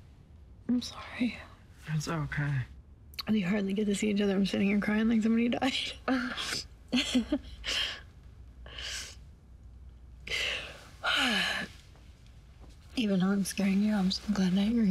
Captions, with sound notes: I'm sorry. - It's OK. - We hardly get to see each other, and I'm sitting here crying like somebody died. [laughs] [sighs] Even though I'm scaring you, I'm so glad that you're here.